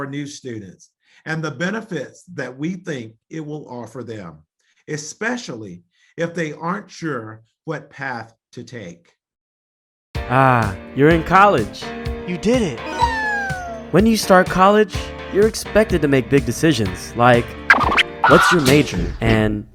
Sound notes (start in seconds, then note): 12.8 video game power up; 17.6 disc scratch